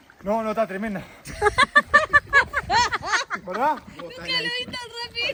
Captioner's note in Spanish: Risas